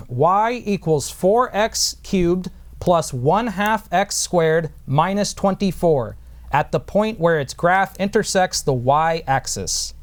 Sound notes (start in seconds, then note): none